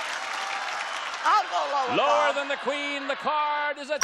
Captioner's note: applause